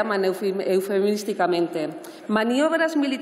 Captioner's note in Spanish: none